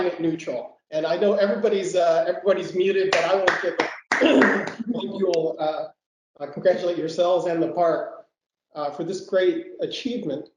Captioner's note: applause